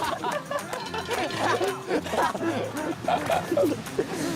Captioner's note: laughing